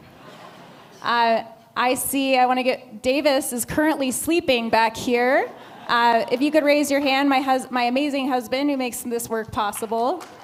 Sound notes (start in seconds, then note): 0.0 laughter; 5.5 laughter; 10.2 applause